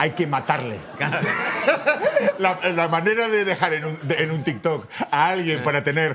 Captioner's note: laughs